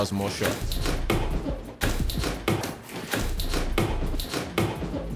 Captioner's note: feet pounding against mat